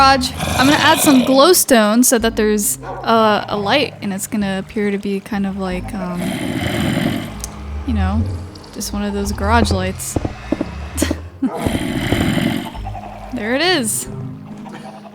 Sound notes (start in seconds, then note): 11.0 laughs